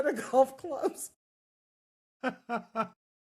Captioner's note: laughing